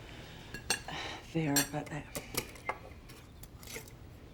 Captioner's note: sighs